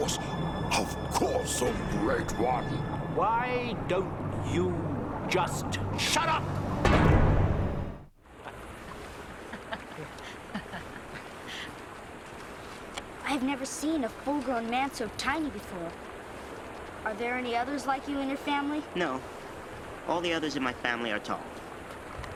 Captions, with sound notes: Of course, of course, oh great one. - Why don't you just shut up?! (water running) (laughing) - I've never seen a full grown man so tiny before. Are there any others like you in your family? - No. All the others in my family are tall.